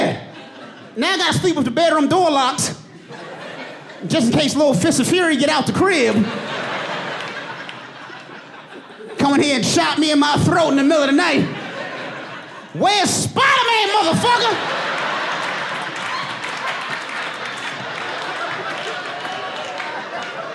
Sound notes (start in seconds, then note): 3.3 audience laughing; 12.2 audience laughing and applauding; 20.3 laughs